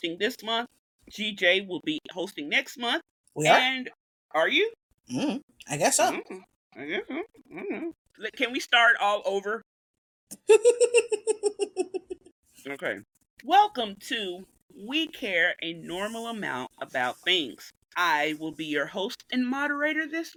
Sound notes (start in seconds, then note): 10.4 giggles